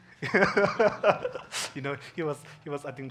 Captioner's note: laughing